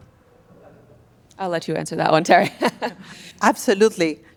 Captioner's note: laughs